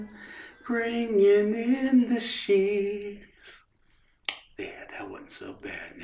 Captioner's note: kisses her